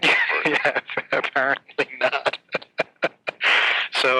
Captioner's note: laughing